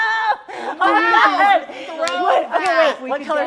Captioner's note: shouting